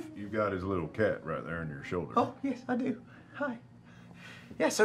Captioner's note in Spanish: none